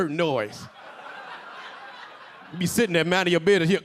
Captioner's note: audience laughing